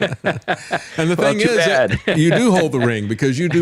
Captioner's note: laughs